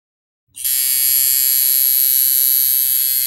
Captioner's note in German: Tätowiergeräusch